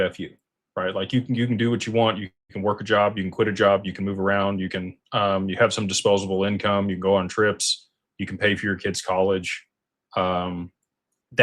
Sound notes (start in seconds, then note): none